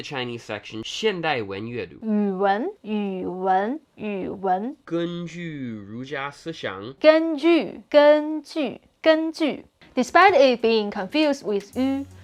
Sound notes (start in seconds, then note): 1.1 speaking in Mandarin